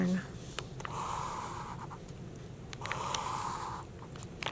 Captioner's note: marker scratching